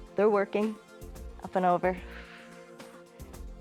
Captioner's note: exhales